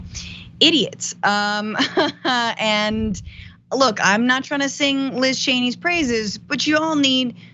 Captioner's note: laugh